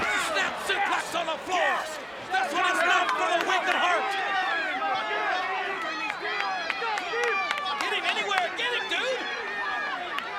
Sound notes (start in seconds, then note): 4.4 audience cheers; 5.7 claps